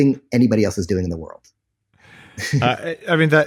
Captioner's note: laughs